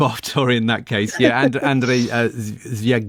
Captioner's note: laughs